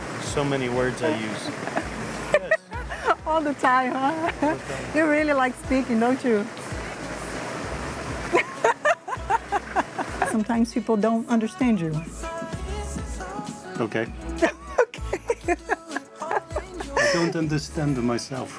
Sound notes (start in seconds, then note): 8.2 laughs